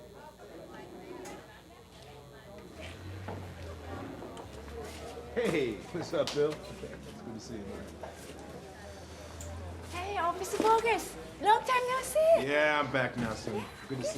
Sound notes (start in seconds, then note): 0.2 patrons chattering indistinctly; 3.2 car engines roar in the distance; 6.1 hands slapping